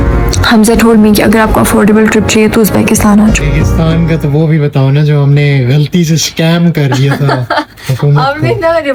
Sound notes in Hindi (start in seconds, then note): 6.8 हंसी